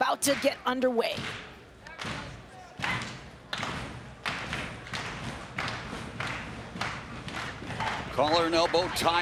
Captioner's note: applause